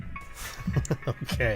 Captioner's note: chuckles